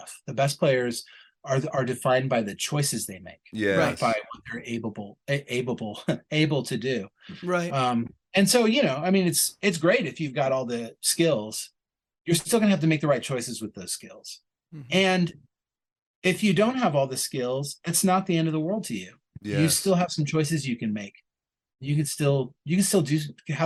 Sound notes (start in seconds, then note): 3.6 chuckles